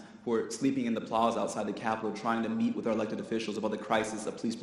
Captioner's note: none